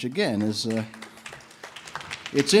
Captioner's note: audience members applaud